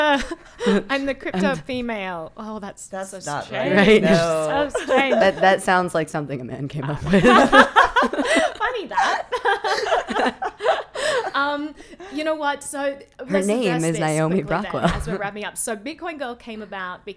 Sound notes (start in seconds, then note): 6.9 laughing